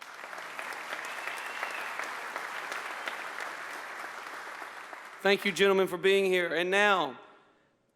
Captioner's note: applause